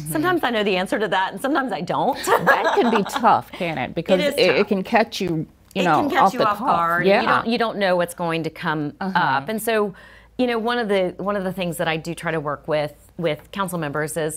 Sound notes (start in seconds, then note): 2.2 chuckles